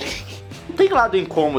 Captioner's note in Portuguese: risos